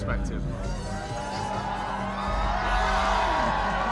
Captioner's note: crowd cheers